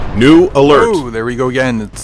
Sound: explosion

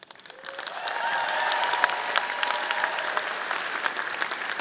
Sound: audience applauding

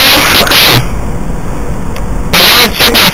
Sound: background radiation sounds again

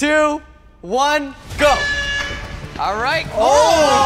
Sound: horn blares

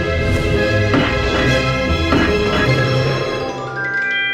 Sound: thumping

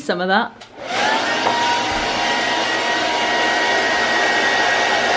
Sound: hairdryer blows

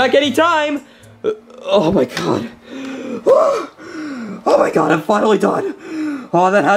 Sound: screams

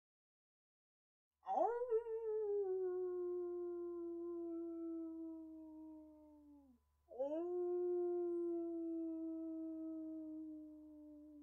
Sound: howling

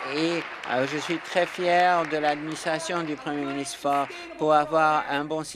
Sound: applause

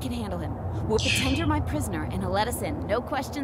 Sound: scoffs

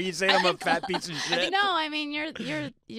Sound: stuttering

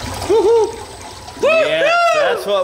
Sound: whoop

